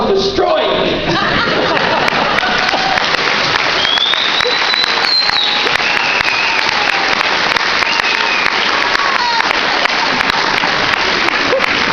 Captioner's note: laughter and cheers